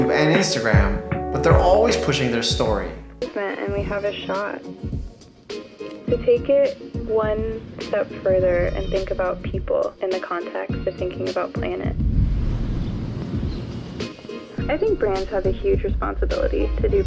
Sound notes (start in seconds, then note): 5.0 upbeat music; 12.3 upbeat music; 12.6 birds chirping